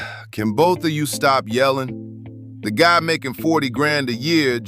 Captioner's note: sigh; flatly